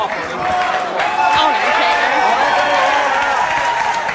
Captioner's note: audience applauds